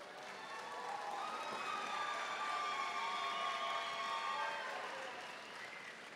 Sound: audience cheering and applauding

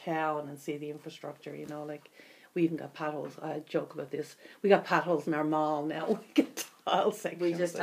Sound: laughs

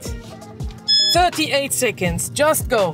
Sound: timer beeps

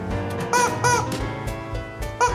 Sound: squeaky noise

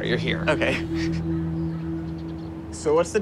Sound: laughs

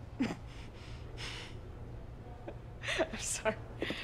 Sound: laughs

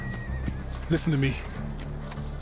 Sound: horse neighs

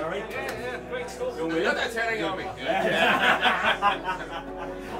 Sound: happy chattering

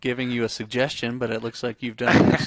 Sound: laughs

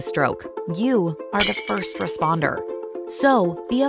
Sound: glass shattering

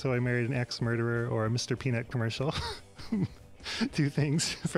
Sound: chuckles

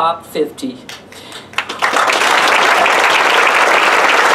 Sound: applause

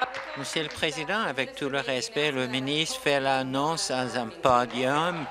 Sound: applause

